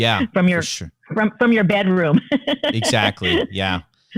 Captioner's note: laughter